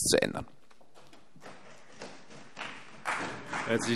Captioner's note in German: Beifall CDU